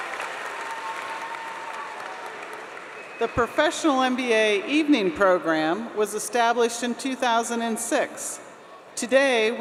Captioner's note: applause